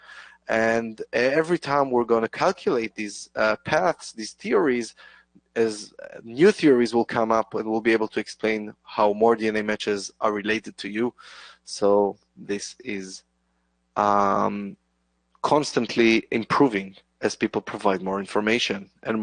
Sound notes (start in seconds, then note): none